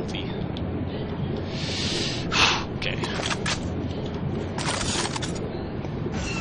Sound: sighs

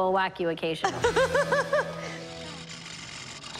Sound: laughter; mechanical whirring

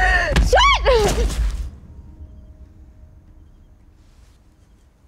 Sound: muffled banging

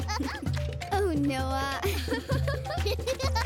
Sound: giggles; giggles; laughing

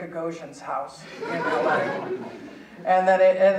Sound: audience laughing

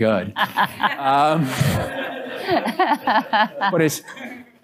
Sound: laughter

